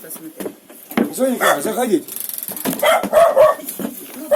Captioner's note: dog barking